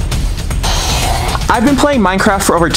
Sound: machinery whirring

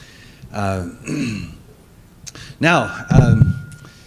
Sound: clears throat

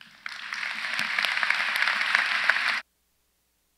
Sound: audience applauds

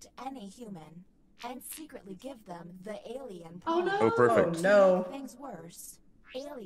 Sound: laugh

